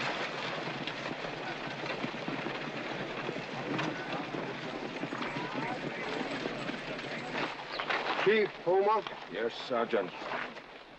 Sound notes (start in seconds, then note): 1.0 crowd noises